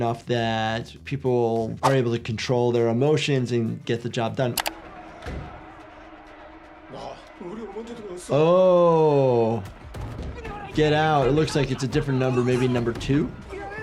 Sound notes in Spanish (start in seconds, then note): 6.9 El jugador habla en coreano; 7.7 El jugador 343 habla en coreano; 13.6 El jugador 390 habla en coreano